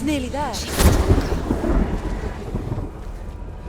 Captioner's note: thunder crashes